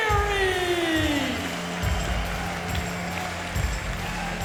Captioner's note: audience cheering